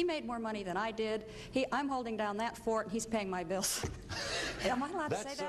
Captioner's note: laughs